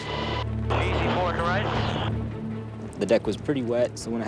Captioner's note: radio chatter